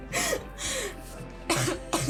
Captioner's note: laughing